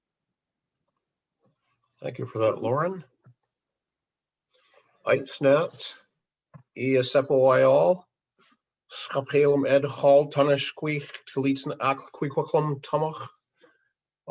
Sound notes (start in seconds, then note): 4.9 in hən̓q̓əmin̓əm̓